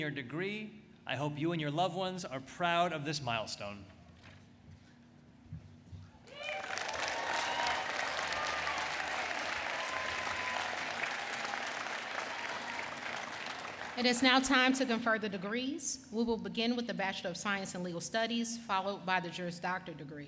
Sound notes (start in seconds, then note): 4.3 applause